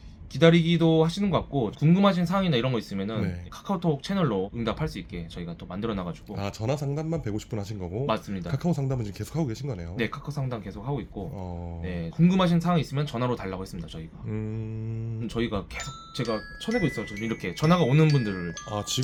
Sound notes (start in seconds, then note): 15.8 ringing sound